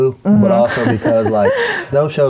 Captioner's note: laughing